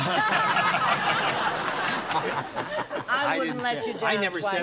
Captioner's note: laughter